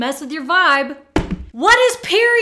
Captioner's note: phone dropping